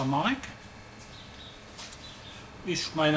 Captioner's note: birdsong from outside